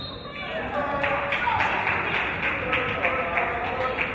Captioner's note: referee's whistle; applause